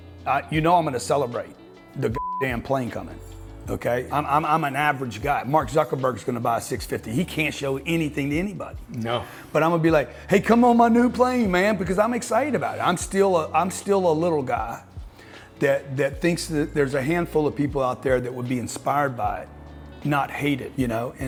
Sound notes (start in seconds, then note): 2.1 beep